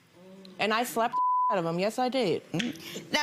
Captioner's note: beep